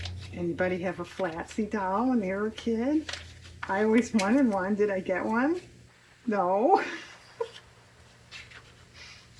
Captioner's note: laughs